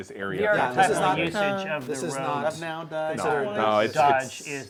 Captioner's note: all chattering